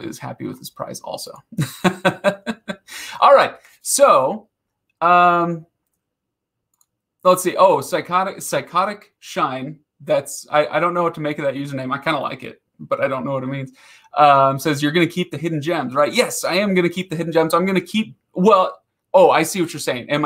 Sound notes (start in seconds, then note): 1.6 laughing